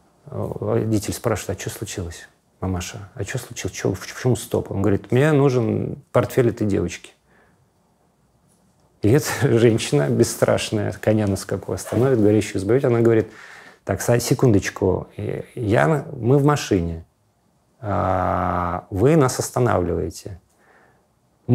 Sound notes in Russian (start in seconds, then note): none